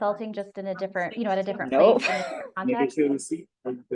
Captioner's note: laughs